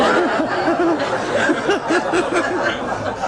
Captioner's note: laughter